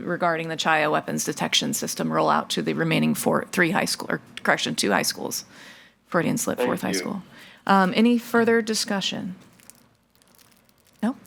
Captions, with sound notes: regarding the Child Weapons detection system rollout to the remaining three high school or correction two high schools, if I didn't slip fourth high school. - Thank you. - Any further discussion?